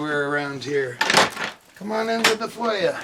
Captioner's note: door creaking